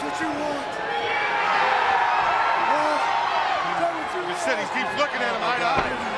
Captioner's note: crowd cheering